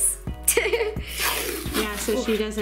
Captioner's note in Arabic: يضحك